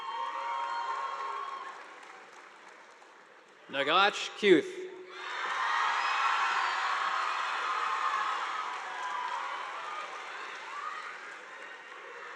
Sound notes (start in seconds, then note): 0.0 audience applauding; 5.1 students cheering; 5.3 audience applauding